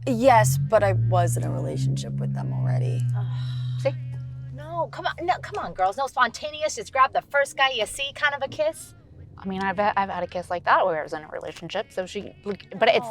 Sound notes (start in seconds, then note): 3.1 Olivia sighs